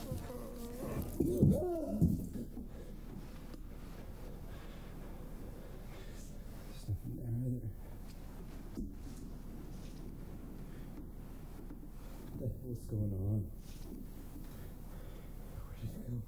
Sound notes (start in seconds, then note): 1.9 Jason screams